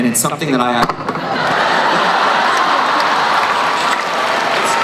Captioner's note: cheering